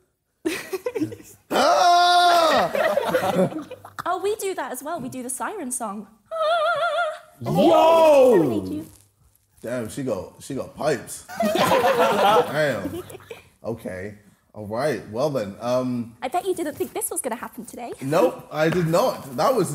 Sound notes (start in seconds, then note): 0.4 giggling; 1.5 screaming; 6.4 singing high notes; 11.4 laughing